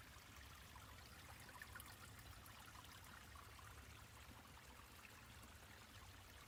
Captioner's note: water continues trickling softly